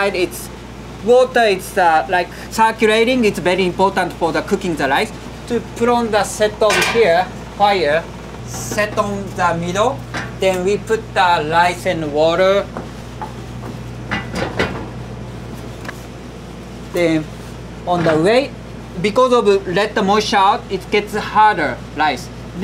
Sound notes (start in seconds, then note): 6.6 hagama clanking; 14.1 lid clanking